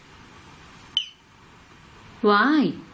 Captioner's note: beep